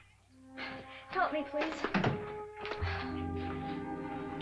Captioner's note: door closes; romantic music